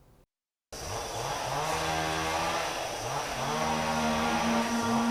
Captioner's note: chainsaw buzzing